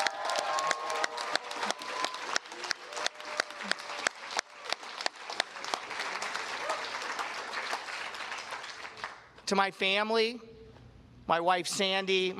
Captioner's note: cheers and applause